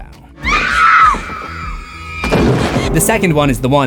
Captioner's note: screams